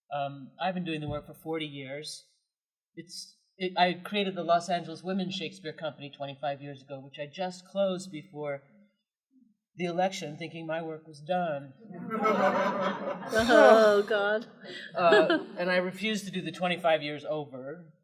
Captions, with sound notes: I’ve been doing the work for forty years. I created the Los Angeles Women Shakespeare Company twenty-five years ago, which I just closed before the election thinking my work was done. [Laughter] -- Oh, god. -- And I refuse to do the twenty-five years over,